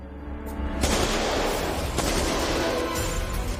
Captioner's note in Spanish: Disparos